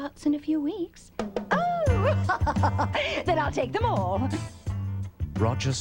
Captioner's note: laughs